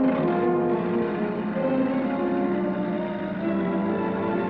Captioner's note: truck rumbling